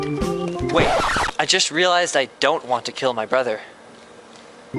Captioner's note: record scratch